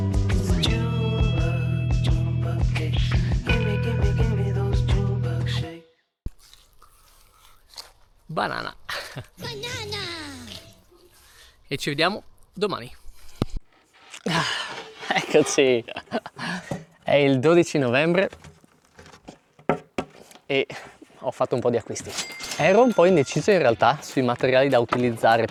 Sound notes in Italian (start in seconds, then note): 15.0 risate